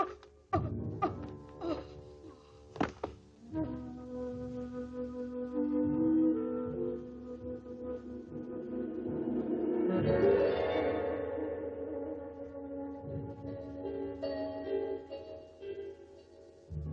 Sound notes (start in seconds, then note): 1.0 Sheena coughs